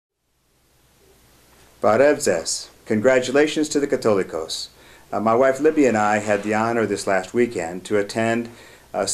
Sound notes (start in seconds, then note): 2.0 non-english speech